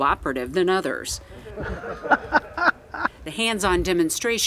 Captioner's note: soldiers laughing